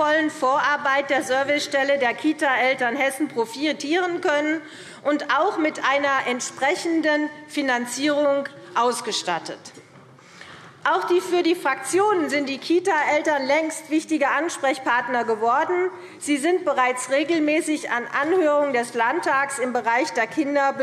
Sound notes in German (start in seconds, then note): none